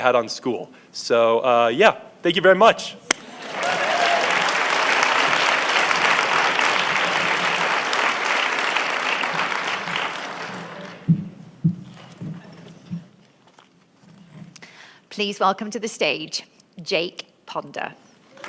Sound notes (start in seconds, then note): 3.4 applause